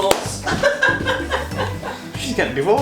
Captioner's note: handclap; laughs